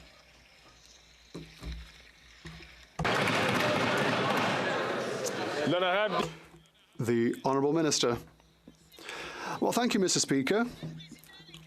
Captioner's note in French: applaudissements